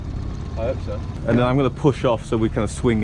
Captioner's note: motor rumbling